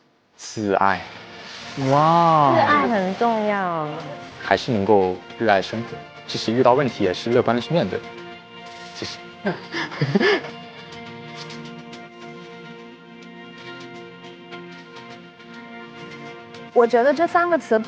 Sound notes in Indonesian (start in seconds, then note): 11.3 Tertawa